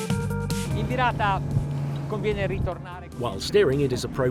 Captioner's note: speaking foreign language